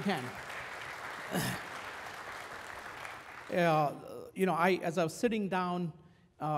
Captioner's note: applause